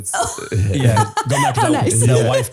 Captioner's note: both laughing